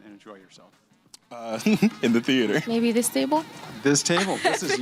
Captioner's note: chuckles